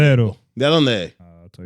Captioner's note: speaking Spanish